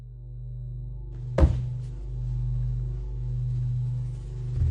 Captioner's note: dramatic music; thudding; dramatic music continues